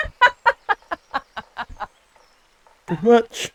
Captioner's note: laughing